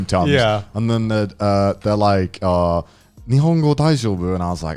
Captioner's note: speaks in foreign language